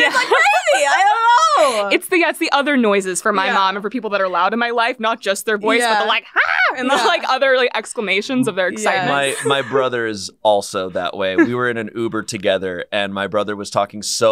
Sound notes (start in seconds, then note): 6.0 shrieks